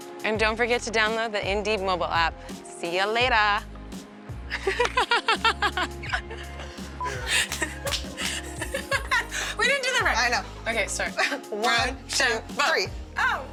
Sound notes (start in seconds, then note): 4.5 laughs